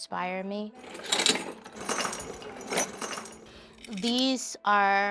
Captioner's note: chains clanking